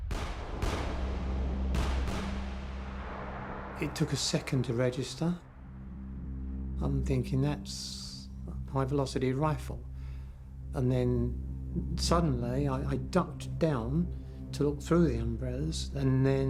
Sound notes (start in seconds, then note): 0.0 gun fires